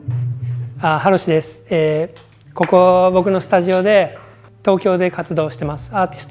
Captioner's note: speaking in foreign language